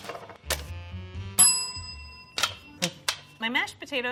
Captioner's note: bell dings